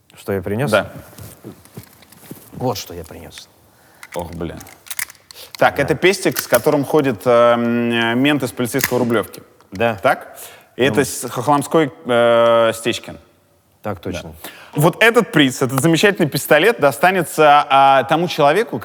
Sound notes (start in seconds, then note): 4.0 gun clangs